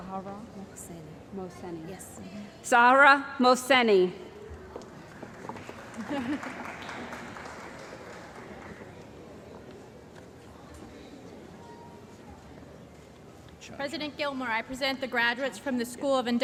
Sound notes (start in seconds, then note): 5.1 applause